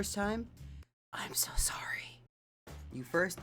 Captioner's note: whispers